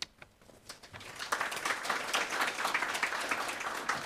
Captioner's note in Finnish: Aplodeja